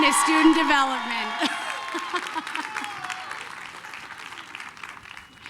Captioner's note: applause, cheering